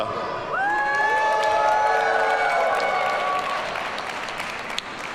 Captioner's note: audience cheers and applauds